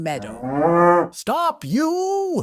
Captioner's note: cow moos